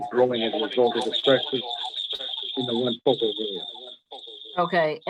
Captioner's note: microphone distortion